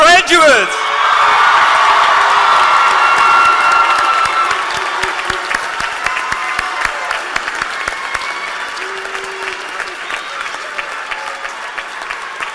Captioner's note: cheers and applause